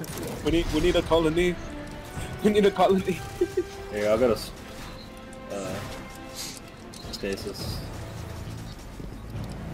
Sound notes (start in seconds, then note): 3.0 chuckling